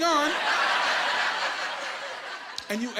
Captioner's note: laughing